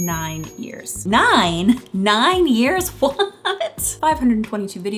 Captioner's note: giggling